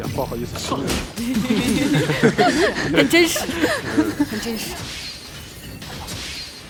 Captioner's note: laughs